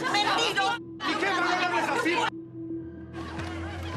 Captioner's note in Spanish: Gritos y exclamaciones